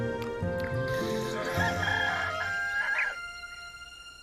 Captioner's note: rooster crows